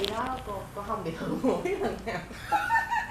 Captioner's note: laugh